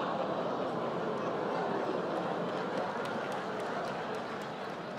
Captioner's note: laughter